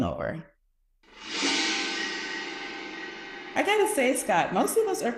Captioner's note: screen whooshing